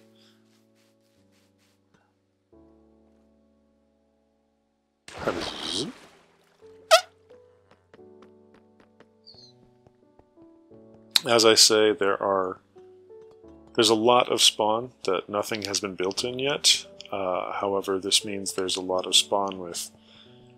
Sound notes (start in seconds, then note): 6.9 squeak